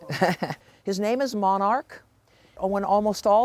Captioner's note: laughs